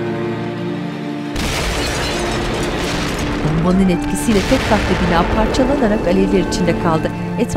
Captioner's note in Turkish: Patlama sesi